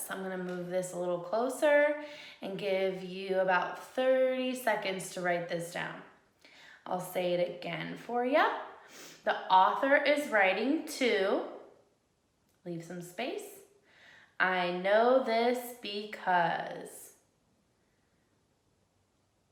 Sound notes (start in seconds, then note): none